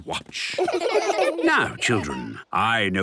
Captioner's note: laughter